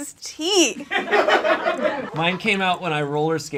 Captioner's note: audience laughs